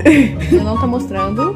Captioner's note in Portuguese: risos